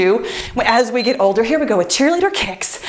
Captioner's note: timer beeps